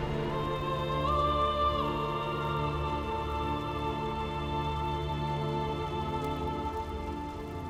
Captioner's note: singer vocalizing; fire crackling